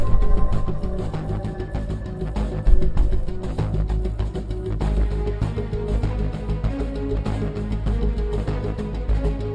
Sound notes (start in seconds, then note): 0.0 heartbeat speeding up; 2.7 heartbeat slowing down